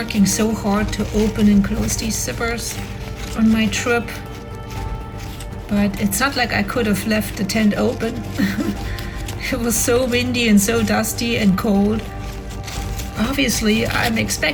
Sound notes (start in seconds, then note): 8.2 laughs